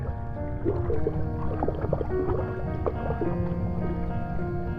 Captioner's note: gentle music; water sloshes; gentle music